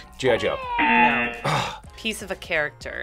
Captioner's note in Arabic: صافرة